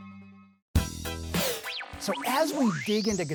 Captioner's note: upbeat music; air whooshing